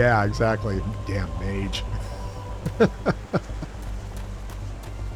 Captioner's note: laughs